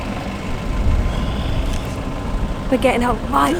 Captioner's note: sound of engine; whispered